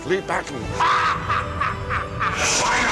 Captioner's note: Poseidon laughing